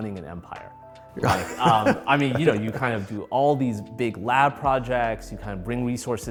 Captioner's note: laughs